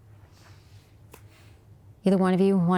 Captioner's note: hands clap